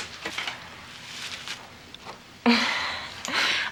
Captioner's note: chuckle